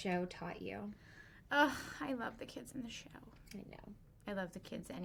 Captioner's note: sighs